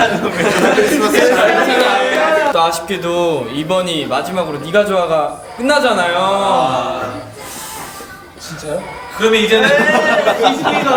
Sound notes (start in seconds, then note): 9.5 weeping